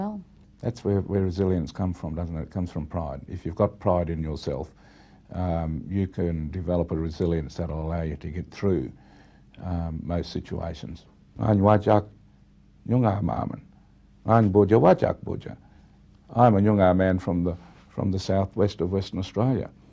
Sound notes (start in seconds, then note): 11.1 speaks Aboriginal language